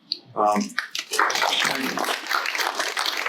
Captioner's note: applause